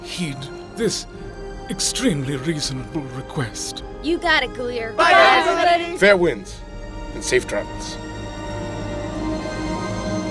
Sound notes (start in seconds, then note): 5.0 group chatter overlapping